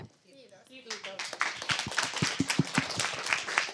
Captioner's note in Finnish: Yleisö antaa aplodit